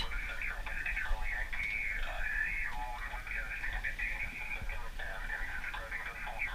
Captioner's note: voice on radio in background giving weather forecast